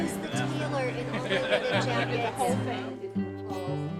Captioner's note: conversations